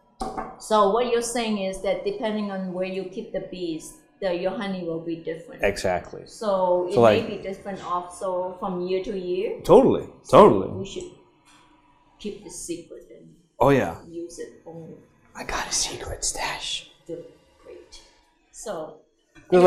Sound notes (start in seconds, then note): 15.4 whispers